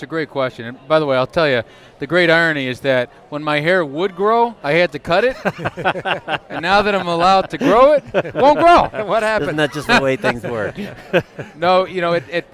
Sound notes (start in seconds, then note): 5.2 laughter